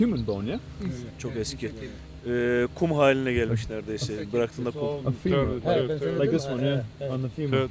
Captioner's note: speaks foreign language